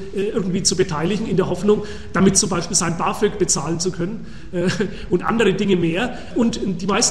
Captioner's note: giggles